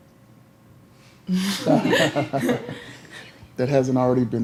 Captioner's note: laughter